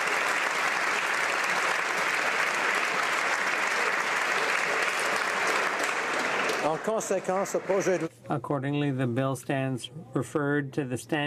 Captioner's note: applause